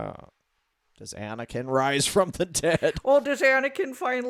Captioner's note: laughs